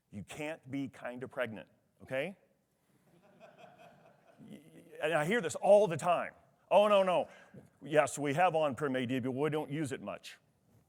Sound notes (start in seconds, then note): 3.1 attendee laughs